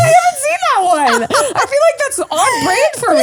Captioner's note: laughs